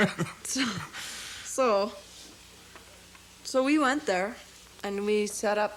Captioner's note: laughs; scoffs